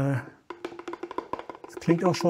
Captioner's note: tripping knocking